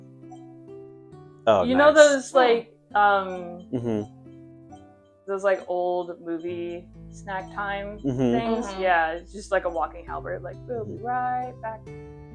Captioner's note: beeping